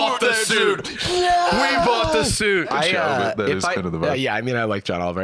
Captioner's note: clapping, cheering